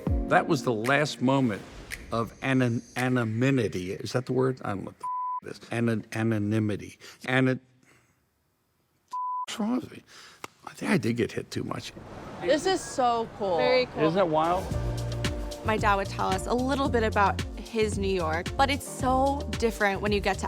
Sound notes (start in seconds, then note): 5.0 beep